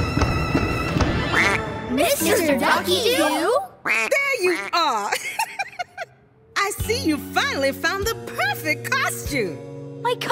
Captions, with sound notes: [quacks] Mr. Ducky Doo? There you are! [laughing] I see you finally found the perfect costume.